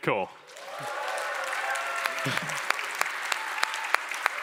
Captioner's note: applause